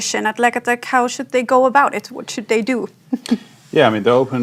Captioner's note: chuckles